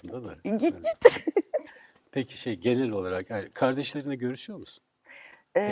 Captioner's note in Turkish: kahkaha